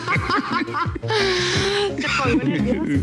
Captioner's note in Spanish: Risas